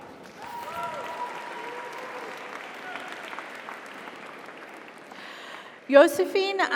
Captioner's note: audience applauds; audience cheers